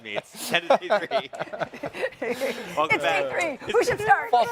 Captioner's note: hosts chuckling